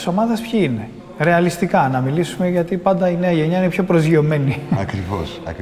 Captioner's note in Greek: γέλια